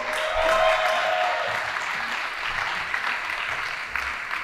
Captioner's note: audience applauding